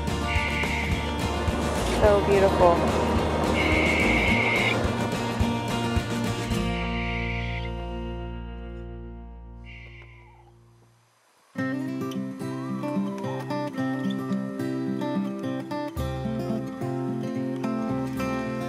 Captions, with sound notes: So beautiful. (owl howls) (upbeat guitar music)